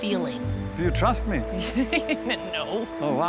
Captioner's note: laughing